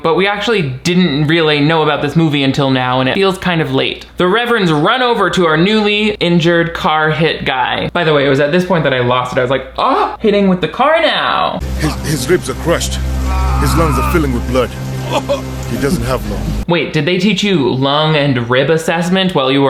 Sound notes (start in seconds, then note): 13.1 Robert screams; 14.8 rain pattering; 15.0 Robert coughs